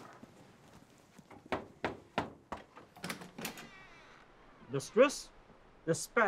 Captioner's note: knocking at door